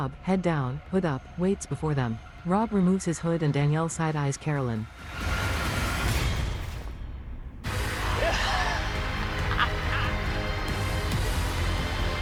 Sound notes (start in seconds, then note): 8.1 laughs